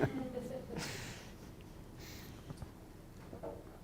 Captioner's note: laughter